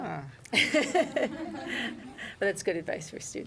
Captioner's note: laughter